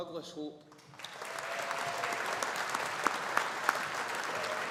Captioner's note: audience applauding